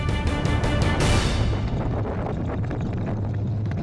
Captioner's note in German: Wind bläst